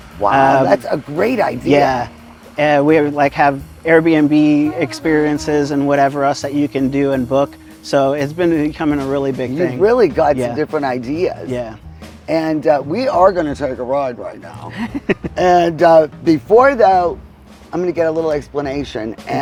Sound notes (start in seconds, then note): 1.9 pat; 14.3 laughing